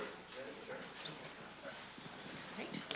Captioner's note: voiceover